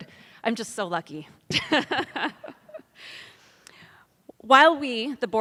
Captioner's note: laughs